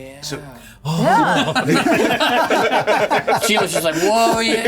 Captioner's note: players laughing